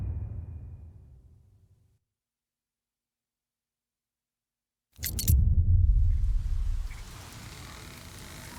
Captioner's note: dramatic sound